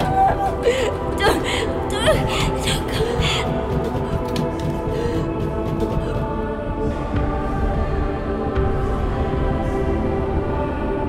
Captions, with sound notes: - Don't... don't come... (dramatic music)(knocking)